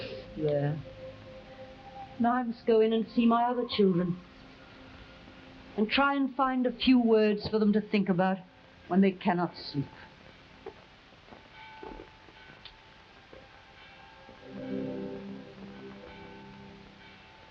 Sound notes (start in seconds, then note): 0.0 Camila crying; 10.8 abbey bell ringing; 13.8 forlorn music